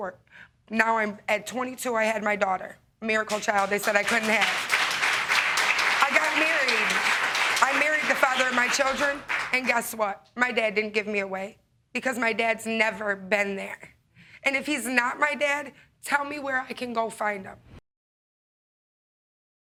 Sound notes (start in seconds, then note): 3.2 audience clapping